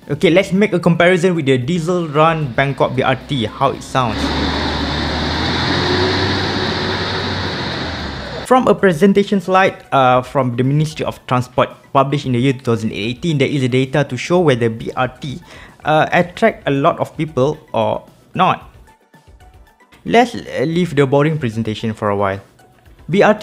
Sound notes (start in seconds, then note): 4.0 vroom vroom